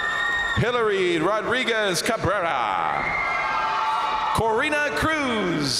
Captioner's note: crowd cheering